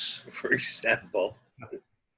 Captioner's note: laughs